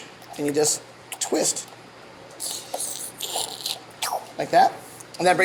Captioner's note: oyster slurping